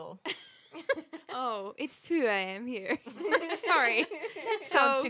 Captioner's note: laughter